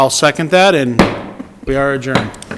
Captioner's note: gavel bangs